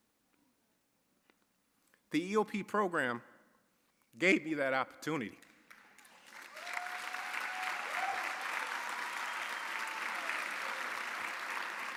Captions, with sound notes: The EOP Program gave me that opportunity. (audience applauding) (audience cheering)